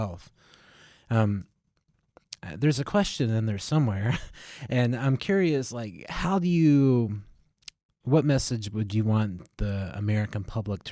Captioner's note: laughter